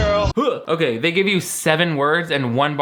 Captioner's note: grunts